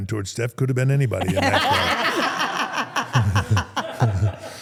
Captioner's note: everyone laughs